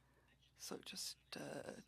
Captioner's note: speaking French